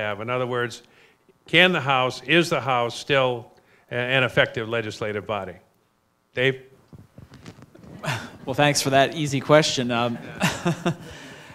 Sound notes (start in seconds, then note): 10.1 laughs